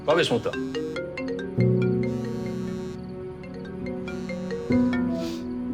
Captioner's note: cellphone rings